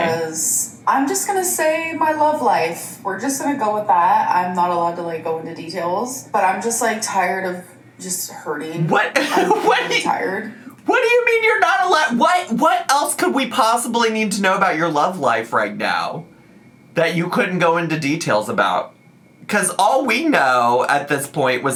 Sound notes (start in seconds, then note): 8.8 laughs